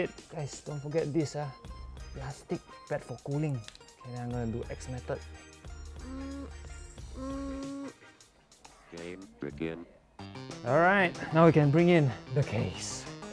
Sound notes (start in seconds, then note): 5.9 constipation sounds